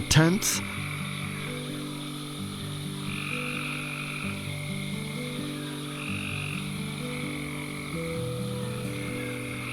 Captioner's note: crickets; soft music